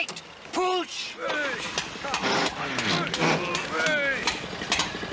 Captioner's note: gears grinding; men, straining